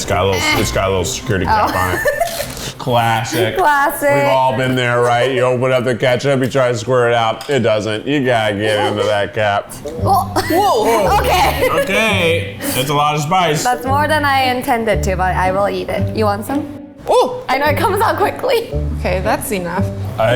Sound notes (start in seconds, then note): 1.3 laughs; 10.1 laughs